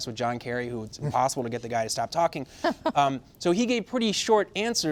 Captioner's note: laughter